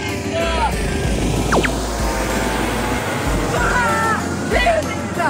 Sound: a helicopter passed by!

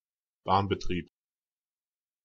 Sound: fast Pronunciation

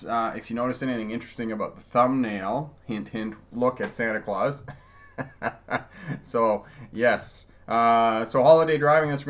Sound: laughing

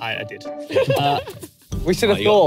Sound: all laughing

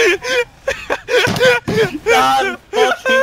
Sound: desk slamming

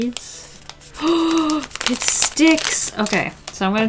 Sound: gasps

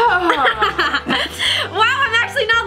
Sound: laughs

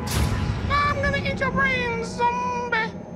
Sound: eerie music; high-pitched voice

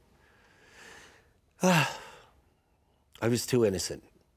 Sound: <i>sighs</i>

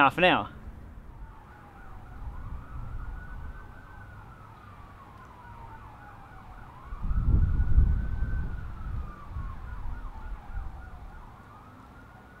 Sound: fire Truck Sounds

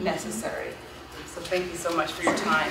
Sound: audience clapping

